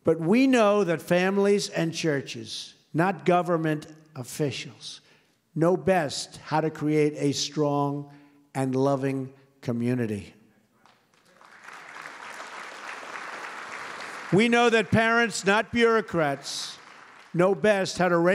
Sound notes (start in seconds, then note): 10.3 applause